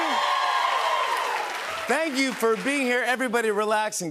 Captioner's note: cheers and applause